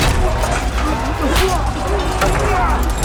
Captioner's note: soldier groans